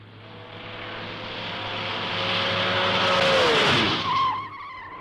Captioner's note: engine revving; tires screeching